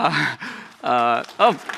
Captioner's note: applause